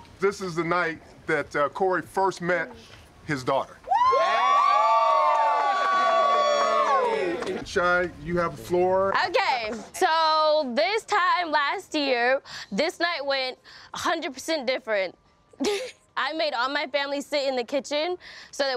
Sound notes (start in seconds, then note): 3.8 group cheering; 15.6 laughs